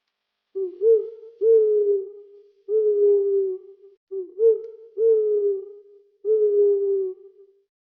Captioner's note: animal Sound